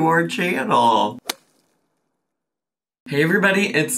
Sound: title splats

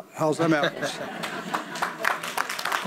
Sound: audience laughs; audience applauds

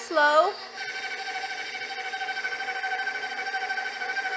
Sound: mixer whirring

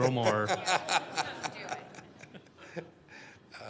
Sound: laughter

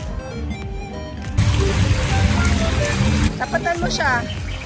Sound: running water

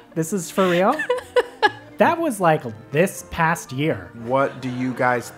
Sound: laugh

